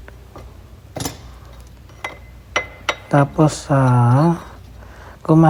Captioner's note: metal clinging